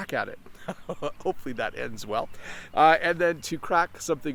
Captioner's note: laughs